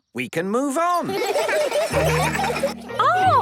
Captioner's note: laughter